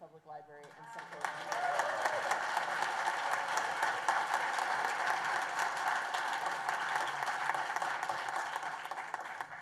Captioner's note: applause and cheers